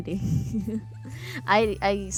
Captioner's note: laughs